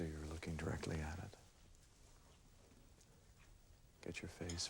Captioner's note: none